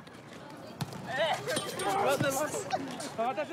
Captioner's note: chatter, laughter